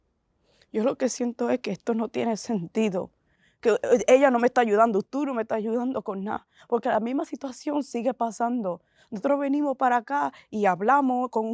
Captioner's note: Spanish